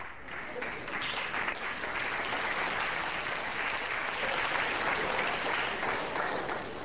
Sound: class applauds

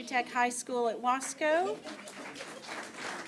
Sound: applause

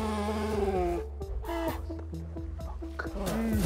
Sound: moaning; whispers

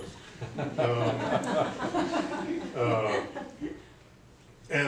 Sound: laughter

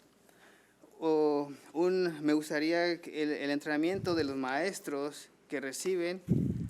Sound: man speaking foreign language

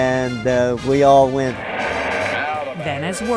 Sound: crowd roaring

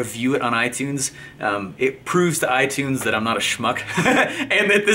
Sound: laughing

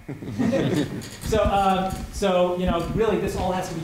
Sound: laughter

